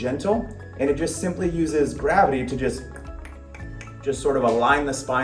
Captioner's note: tongue clicking